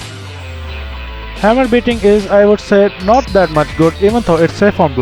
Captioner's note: hammer beating